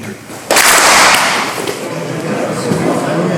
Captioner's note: clap